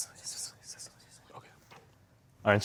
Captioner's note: whispering